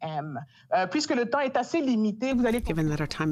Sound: speaking in French

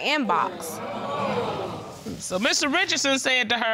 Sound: audience groaning

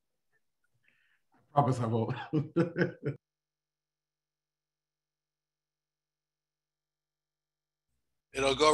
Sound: laughter

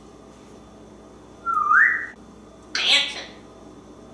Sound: whistling

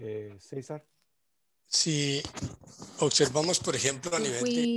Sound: speaking in foreign language

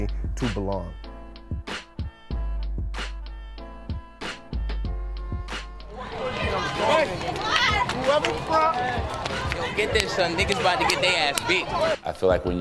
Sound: chatter

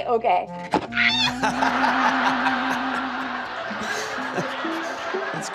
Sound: character screams

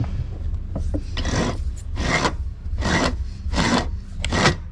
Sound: tool turning

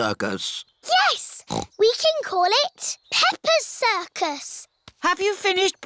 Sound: snorts

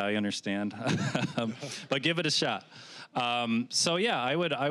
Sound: laughing

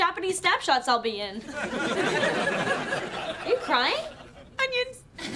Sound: audience laughs

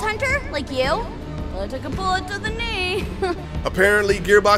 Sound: laughs

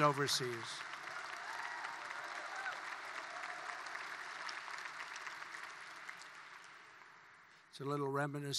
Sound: applause

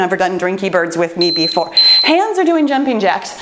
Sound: timer beeping

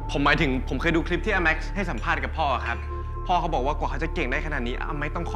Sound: none

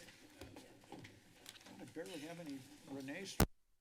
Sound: whispers

